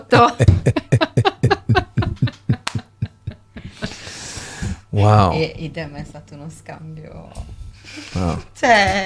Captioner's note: laughs